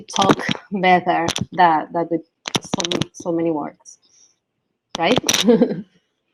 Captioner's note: laughs